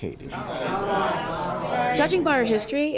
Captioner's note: crowd rumbling